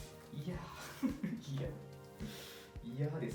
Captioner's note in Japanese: 苦笑